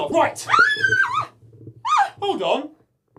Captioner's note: screams